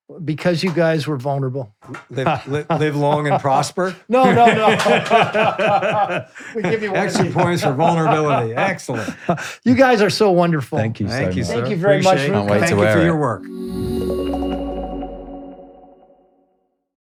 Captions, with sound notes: Because you guys were vulnerable. They've longed and prospered? No, no, no. (both laughing) Excellent points for vulnerability, excellent. You guys are so wonderful. Thank you so much. Thank you very much, man. Thank you for your work. (upbeat music)